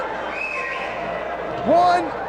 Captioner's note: spectator whistling